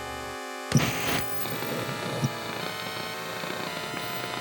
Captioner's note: tv static noises